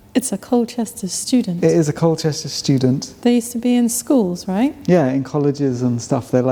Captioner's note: none